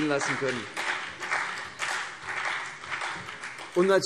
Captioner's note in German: Beifall CDU und vereinzelt BÜNDNIS 90/DIE GRÜNEN